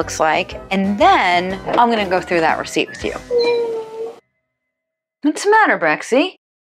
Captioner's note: cry crying